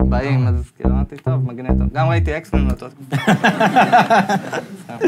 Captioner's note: audience laughs